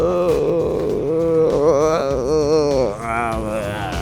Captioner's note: moaning